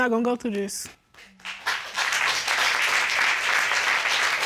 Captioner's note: applause